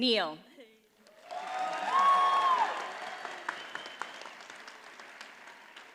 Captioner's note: audience cheers and applauds